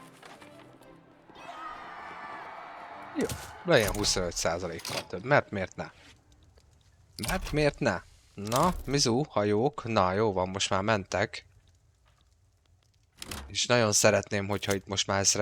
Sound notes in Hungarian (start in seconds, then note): 1.2 éljenzés; 1.3 sikítás